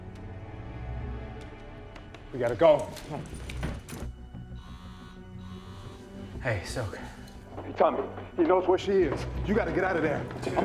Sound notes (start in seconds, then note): 4.5 phone vibrates